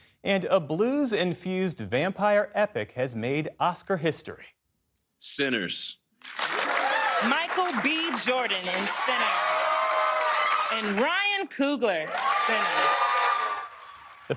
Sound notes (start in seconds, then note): 6.3 cheering